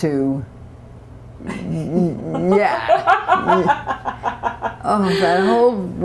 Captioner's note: laughter